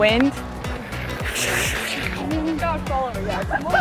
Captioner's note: wind noises